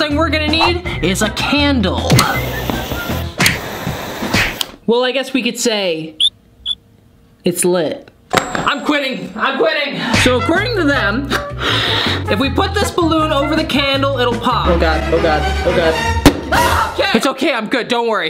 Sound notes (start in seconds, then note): 16.6 screaming